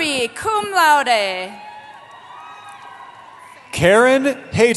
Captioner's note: cheering